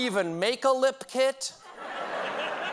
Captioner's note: laughter